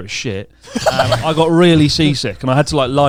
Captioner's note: laughs